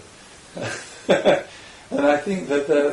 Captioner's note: laughs